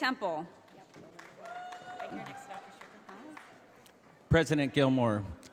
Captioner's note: audience applauding